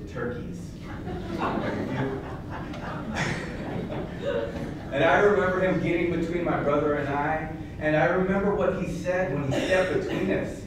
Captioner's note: laughter